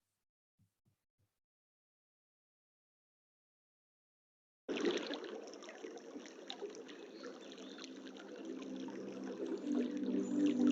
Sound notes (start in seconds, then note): 4.7 water rippling